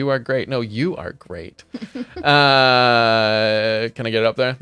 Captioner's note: laughs